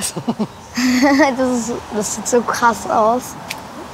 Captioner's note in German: lacht